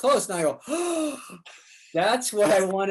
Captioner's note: gasps